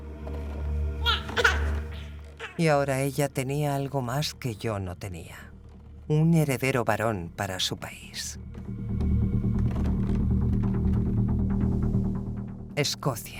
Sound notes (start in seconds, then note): 1.0 baby cries; 8.4 dramatic music